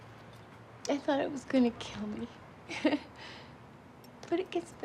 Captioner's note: chuckles